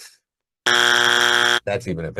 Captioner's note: buzzer blaring